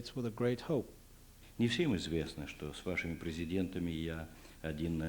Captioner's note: non-english speech